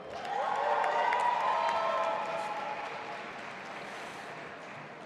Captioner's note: audience applauding